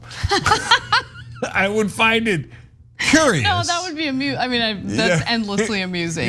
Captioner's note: laugh